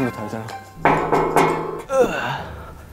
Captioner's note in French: Toc-toc